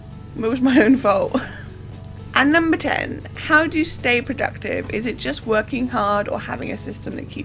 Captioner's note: laughs